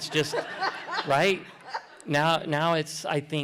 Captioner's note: laughter